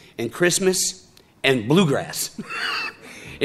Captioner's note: chuckling